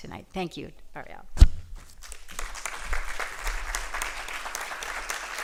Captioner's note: applause